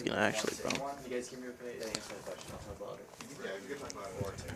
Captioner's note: indistinct chatter